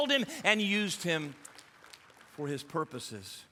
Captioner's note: audience applauding